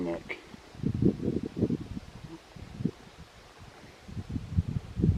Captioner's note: wind blowing